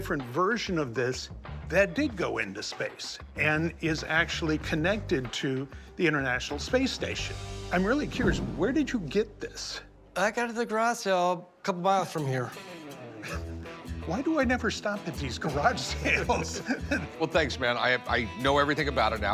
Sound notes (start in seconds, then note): 12.8 laughs